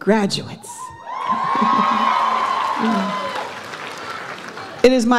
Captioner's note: audience applauds